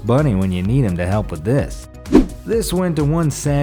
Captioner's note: air whooshes